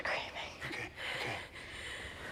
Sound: whispers

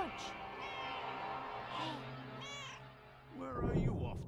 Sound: Hodge meows; Hodge meows

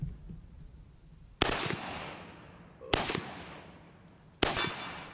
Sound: gunshots

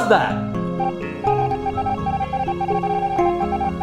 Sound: Red beeping

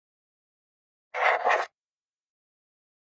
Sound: sound of writing

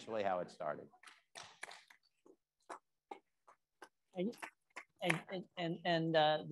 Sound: attendees applauding

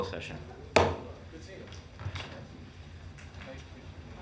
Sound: gavel thuds

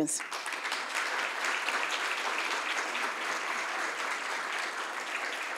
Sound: audience applauds

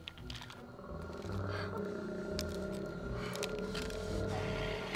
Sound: low growl

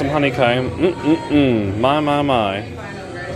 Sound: moaning

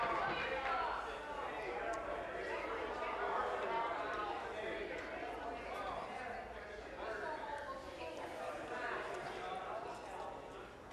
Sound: applause

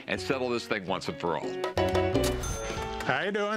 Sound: ka-ching

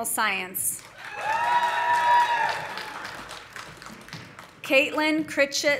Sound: audience applauding; audience cheering

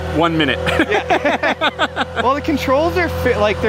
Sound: laughing

